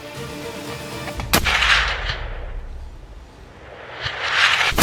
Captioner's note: shot fired